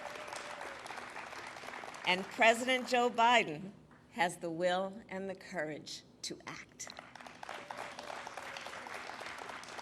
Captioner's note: applause